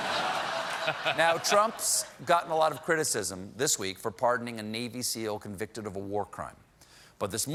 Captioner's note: laughter